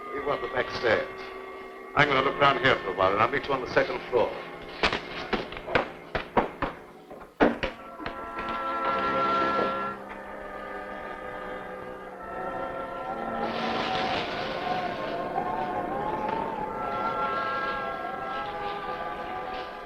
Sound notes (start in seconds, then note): 0.0 pensive music; 12.6 pensive music; 12.6 wind howling